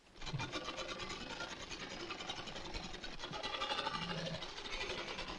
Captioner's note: sewing machine whirring